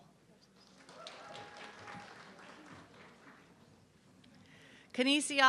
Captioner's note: audience clapping